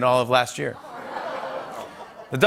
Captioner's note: laughter